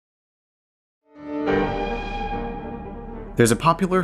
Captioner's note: train Whistle